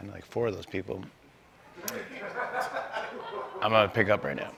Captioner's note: laughter